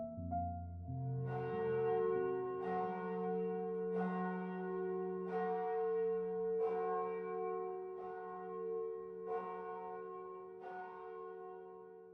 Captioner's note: large bell tolls